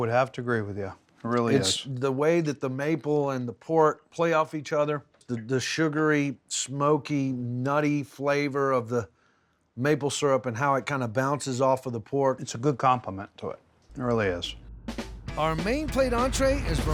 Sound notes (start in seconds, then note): none